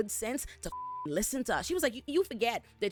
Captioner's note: beep